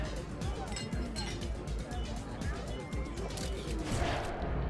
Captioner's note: glasses clinking